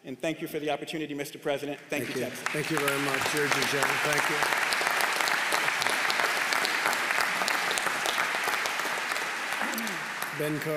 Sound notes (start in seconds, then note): 1.9 applause